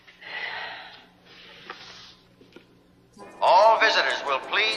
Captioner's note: Liz sighs